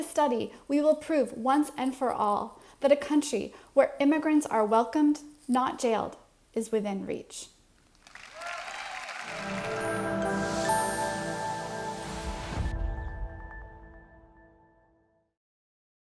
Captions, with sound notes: With this study, we will prove once and for all that a country where immigrants are welcomed, not jailed, is within reach. (audience applauds) (calm music)